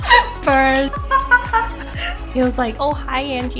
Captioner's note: laughing